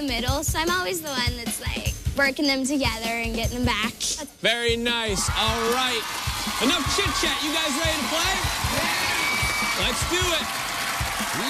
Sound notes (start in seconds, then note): 8.7 cheers and applause